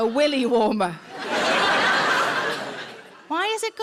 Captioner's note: audience laughs